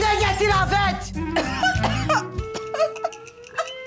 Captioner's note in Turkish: öksürüyor